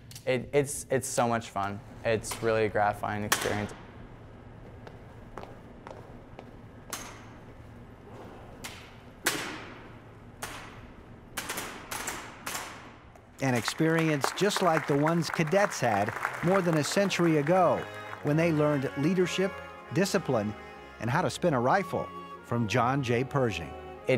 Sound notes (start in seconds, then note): 4.6 footsteps pattering rhythmically; 8.6 audience applauding; 8.6 rifles thudding rhythmically